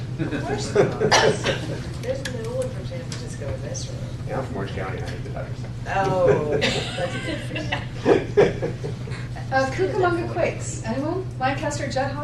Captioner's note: laughter